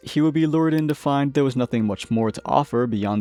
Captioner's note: click